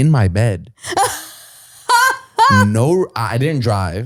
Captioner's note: laughs